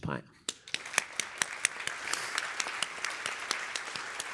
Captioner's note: applause